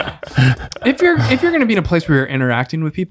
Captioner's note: laughs